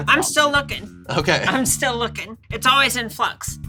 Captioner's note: laughing